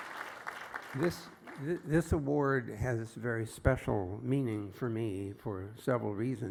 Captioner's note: applause